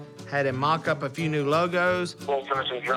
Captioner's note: on phone